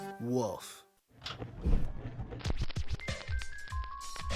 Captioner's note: record scratching